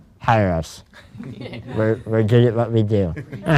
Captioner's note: laughs